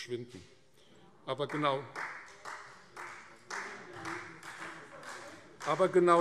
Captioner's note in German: Beifall Freie Demokraten